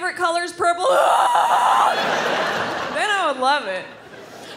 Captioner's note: screams